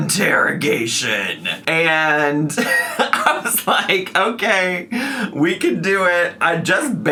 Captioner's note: laughing